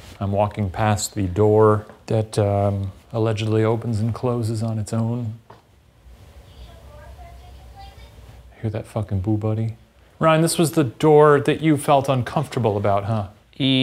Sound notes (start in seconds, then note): 6.5 BooBuddy chattering